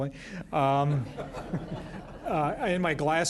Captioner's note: laughter